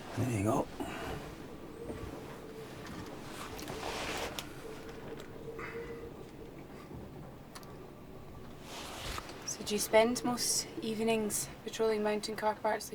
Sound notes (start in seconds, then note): none